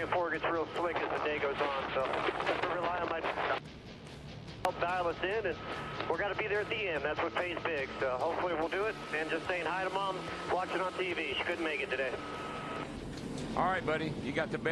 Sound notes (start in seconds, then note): 0.3 audio interference; 7.7 audio interruption